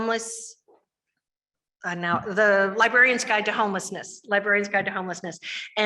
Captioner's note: none